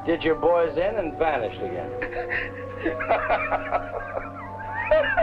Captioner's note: Colonel Cabeza laughing